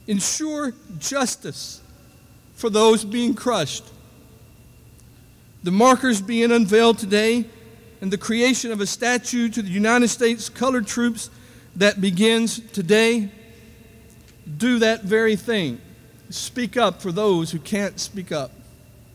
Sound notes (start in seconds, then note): none